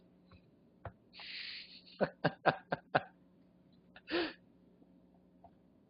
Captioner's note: laughter